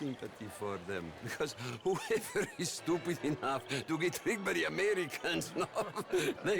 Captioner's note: laughs; laughing; laughs